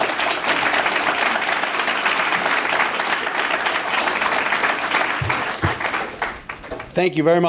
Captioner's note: applause